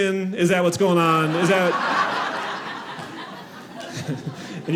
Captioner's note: audience laughing